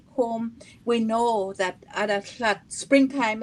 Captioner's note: speaking Indigenous language